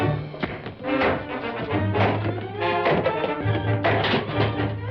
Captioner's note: pipe banging